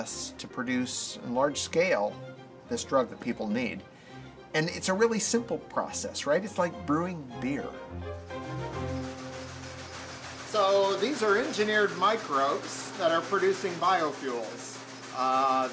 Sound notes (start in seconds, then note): 8.2 machine noise